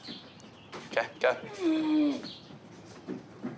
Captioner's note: wheezes